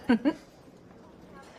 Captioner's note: laughs